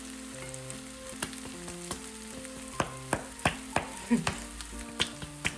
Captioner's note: thud thud